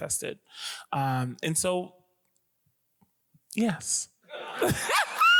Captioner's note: screams